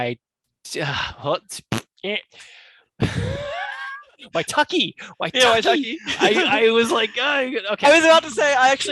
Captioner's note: thinking sounds